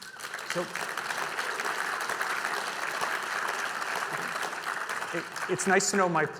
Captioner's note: audience applauding